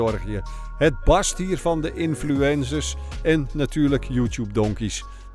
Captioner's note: voiceover